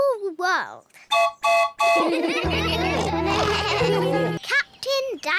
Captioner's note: toots horn; all laugh